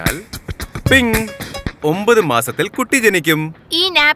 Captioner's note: ping